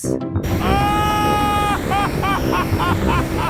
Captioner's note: excited screaming, laughing